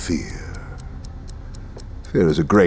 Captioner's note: clock ticking